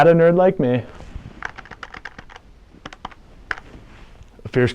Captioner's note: keyboard keys tapping